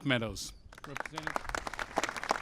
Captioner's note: applause